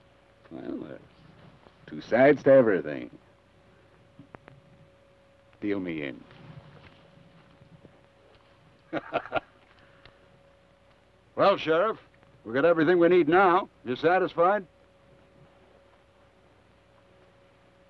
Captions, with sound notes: - Well, there's two sides to everything. Deal me in. (Theodore laughs) - Well, Sheriff, we've got everything we need now. Are you satisfied?